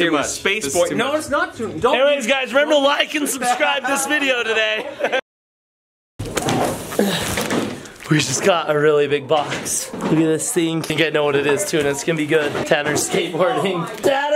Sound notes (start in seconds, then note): 3.5 laughs; 6.2 crashing sound